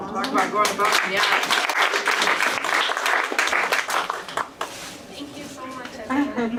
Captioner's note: applause